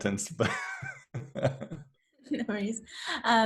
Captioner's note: laughs